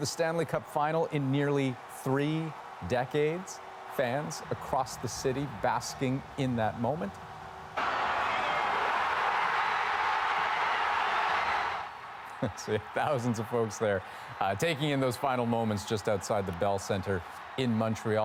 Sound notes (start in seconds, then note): 12.9 cheers and applause